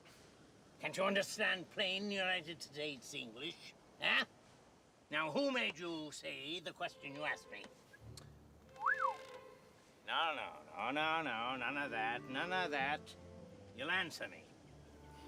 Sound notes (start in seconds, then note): 8.7 whistles